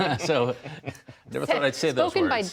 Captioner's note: laughter